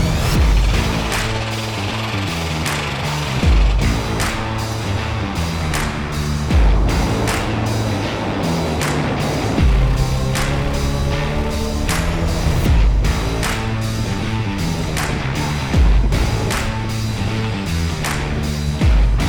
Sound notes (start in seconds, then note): 0.2 jackhammer thumping; 0.2 upbeat music; 6.5 machinery whirring; 6.5 upbeat music